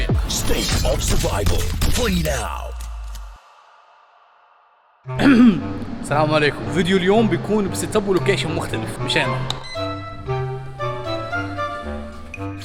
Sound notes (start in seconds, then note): 5.1 clears throat; 9.7 jolly music playing